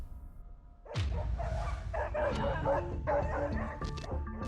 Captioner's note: tense music; barking